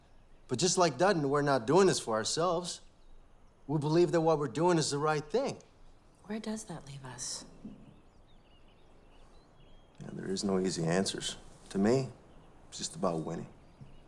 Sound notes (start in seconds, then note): none